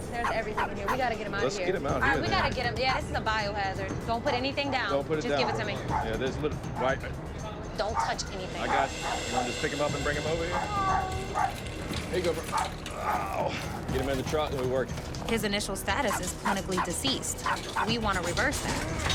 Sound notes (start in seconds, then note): 11.9 cat meows